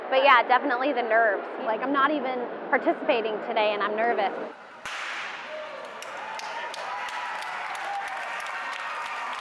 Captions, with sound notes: Definitely. The nerves. I'm not even participating today and I'm nervous. [starter's pistol fires] [cheering]